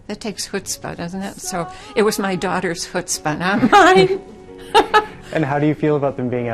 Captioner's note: laughs